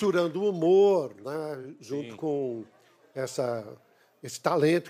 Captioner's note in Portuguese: aplausos